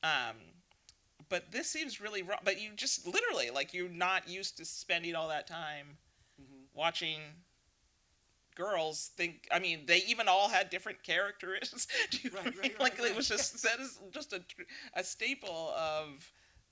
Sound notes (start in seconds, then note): 11.8 laughing